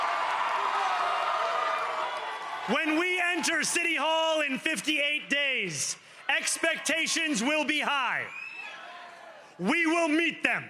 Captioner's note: cheering and applause